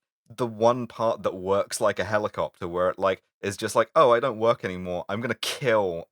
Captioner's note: pitot tube voice